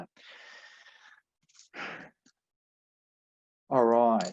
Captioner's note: sighs